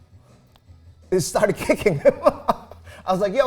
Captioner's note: laughs